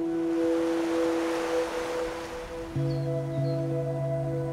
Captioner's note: serene music; waves lap, birds chirp